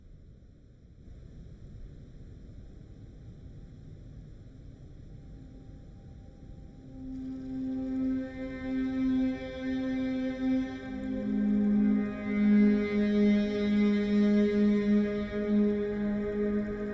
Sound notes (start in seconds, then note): 1.9 brooding music; 7.3 river babbling